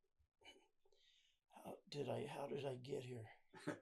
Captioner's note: winces; chuckles